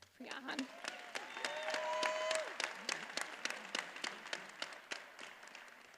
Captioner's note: attendees applauding and cheering